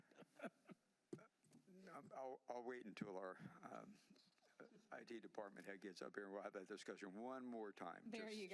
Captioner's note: laughter